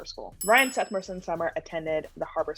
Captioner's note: bells ring